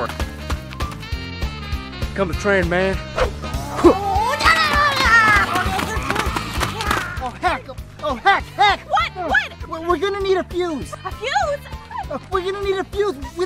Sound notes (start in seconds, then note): 0.2 rock and roll music; 4.7 aliens jabbering